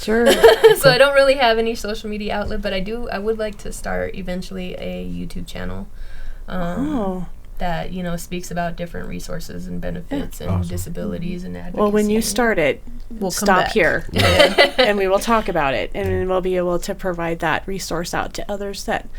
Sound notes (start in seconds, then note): 14.1 laughing